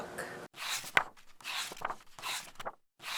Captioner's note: pages turning